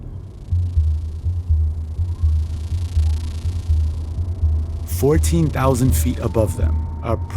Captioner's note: soundbite of drone buzzing